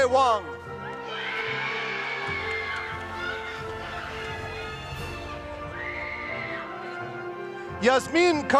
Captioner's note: applause